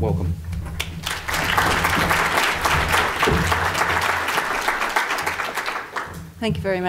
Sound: audience applause

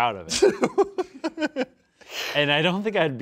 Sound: laughs

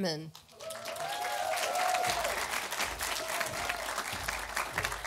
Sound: audience applauding

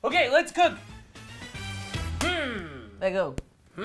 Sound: high-five

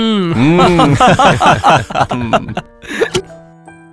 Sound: laughs

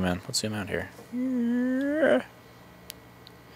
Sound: funny noises

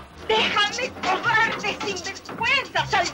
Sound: spanish

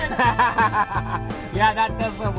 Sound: laughing

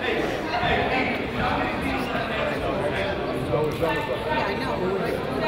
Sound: crowd chatters and laughs

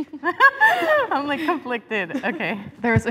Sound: laughing

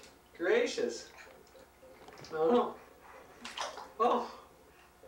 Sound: toy splashing in tub

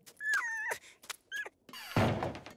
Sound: whining

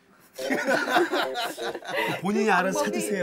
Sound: heeheehee…

